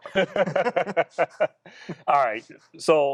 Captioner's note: laughing